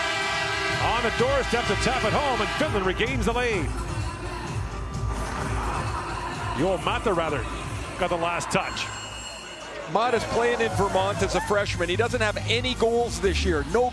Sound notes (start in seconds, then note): 2.1 horn sounding